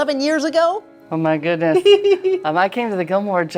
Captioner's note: laughing